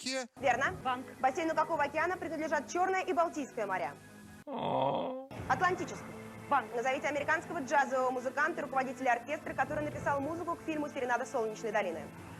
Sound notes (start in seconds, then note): 4.4 moans